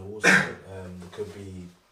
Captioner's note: coughs